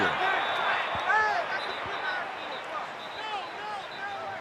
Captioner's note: yelling